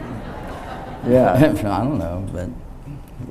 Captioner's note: audience laughs